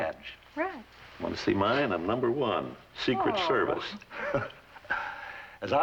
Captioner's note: chuckles